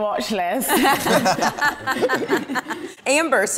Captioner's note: everyone laughs